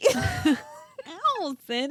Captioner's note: laughing